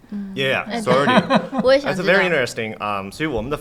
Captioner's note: laughter